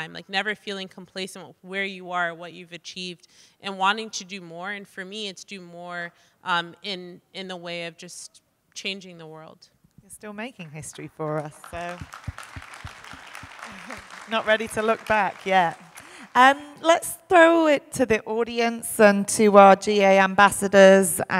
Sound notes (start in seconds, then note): 10.9 audience applauding